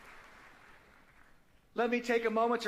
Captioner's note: applause